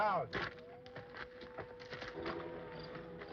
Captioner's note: siren wailing in distance